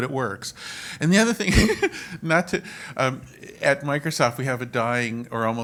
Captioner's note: laugh